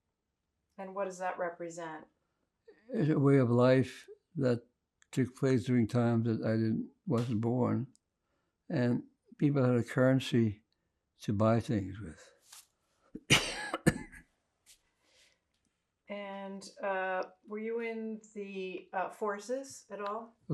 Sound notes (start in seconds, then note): 13.2 coughing